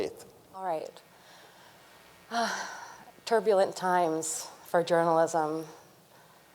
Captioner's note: sighs